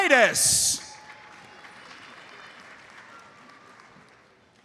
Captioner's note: audience applauds